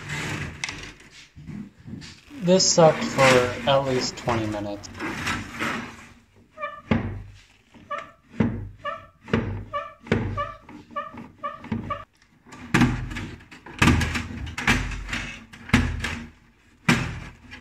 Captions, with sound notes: this sucked for at least 20 minutes [squeak, squeak, squeak]